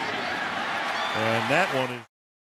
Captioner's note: cheering